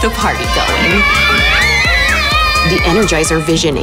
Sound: girls screaming

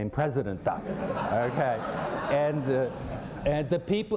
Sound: laughter

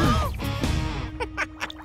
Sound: laughing

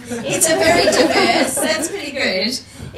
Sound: people laugh; laughs

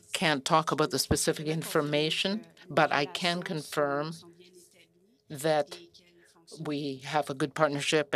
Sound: speaking French

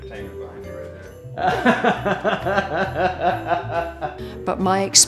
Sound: laughs

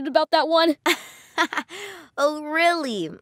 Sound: laughing

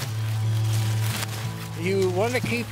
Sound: corn stalks rustling

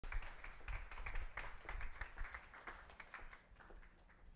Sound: audience applauding

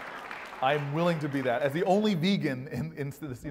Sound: laugh

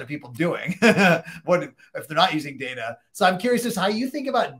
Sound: laughing

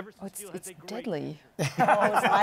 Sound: laughter

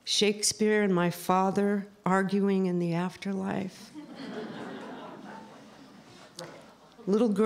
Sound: laughter

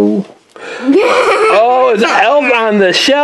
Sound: assistant laughs

